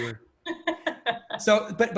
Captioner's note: laughing